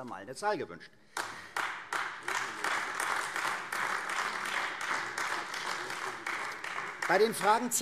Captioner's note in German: Beifall AfD